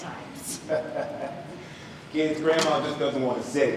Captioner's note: Pops laughs